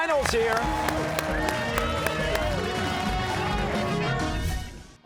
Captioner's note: cheers and applause